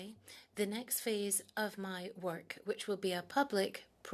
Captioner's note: speaking French